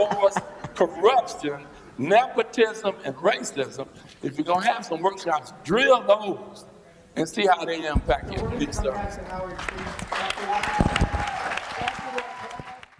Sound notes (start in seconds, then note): 9.3 applause